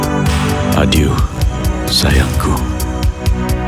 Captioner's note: speaking in foreign language; slow electronic music